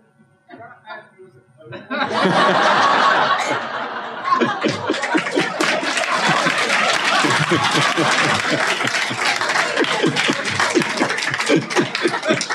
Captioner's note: applause